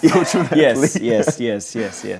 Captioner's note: both laughing